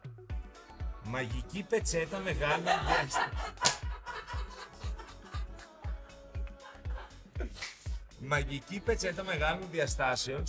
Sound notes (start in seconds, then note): 2.1 laughs